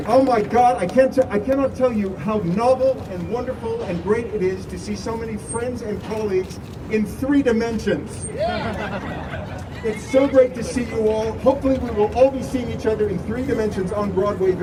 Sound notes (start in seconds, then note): 8.3 crowd laughing